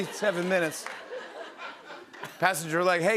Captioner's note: laughter